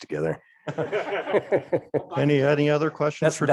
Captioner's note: crowd laughing